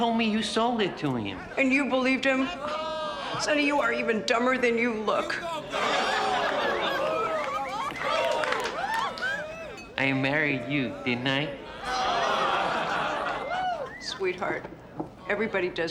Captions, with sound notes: - He told me you sold it to him. - And you believed him? Sonny, you are even dumber than you look. (groans and cheers) - I married you, didn't I? (laughter) - Sweetheart,